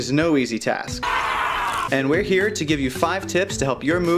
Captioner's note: screams